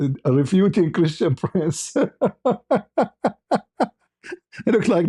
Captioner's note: ketawa